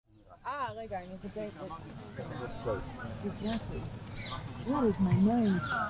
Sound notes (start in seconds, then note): 0.5 hebrew